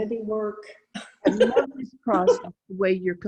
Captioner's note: laughing